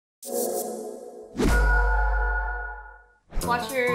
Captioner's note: beeping intro sound effect